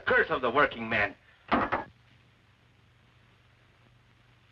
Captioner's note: cup thuds